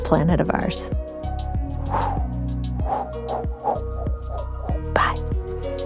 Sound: A wooshing sound as the planet spins

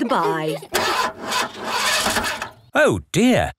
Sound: engine sputtering

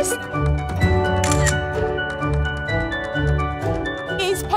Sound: camera shutter sound

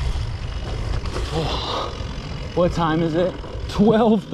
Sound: sighs

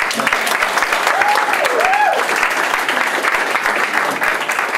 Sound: cheering and applause

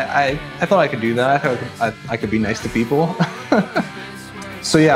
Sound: laughs

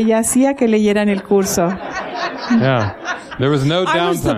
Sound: laughter

